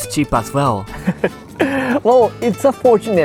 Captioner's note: chuckles